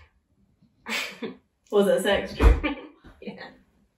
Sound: laughter

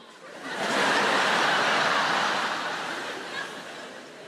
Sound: audience laughs

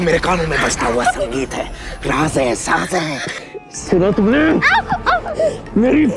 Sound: screams

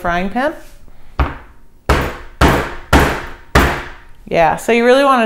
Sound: pounding

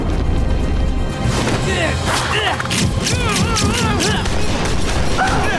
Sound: grunting

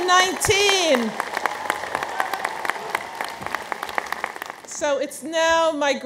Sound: audience applauds

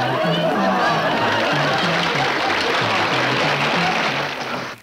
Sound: audience applauding

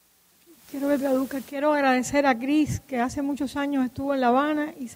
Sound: speaking in Spanish

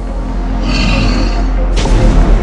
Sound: growls

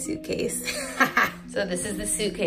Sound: laughing

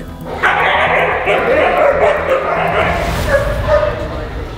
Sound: dogs barking

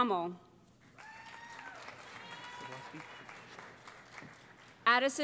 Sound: cheering

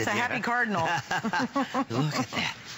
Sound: laughter

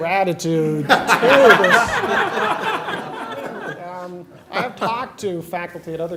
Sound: laughter

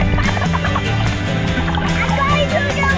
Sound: water bubbling

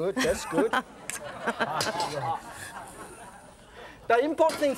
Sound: audience laughs

